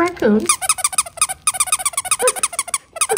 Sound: rapid squeaking

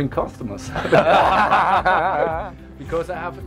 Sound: laughter

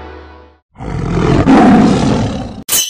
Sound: tiger roars

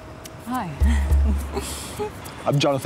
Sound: giggle

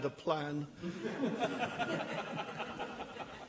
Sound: laughter

